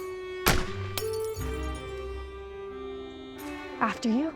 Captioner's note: gunshot; bottle shatters